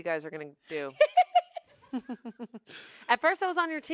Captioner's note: everyone laughs